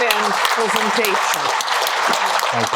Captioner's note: applause